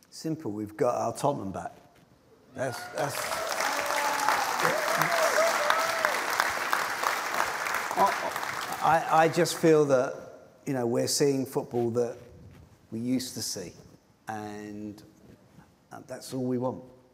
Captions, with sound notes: - Simple. We've got our Tottenham back. - That's-- [cheers and applause] I just feel that we're seeing football that we used to see and that's all we want.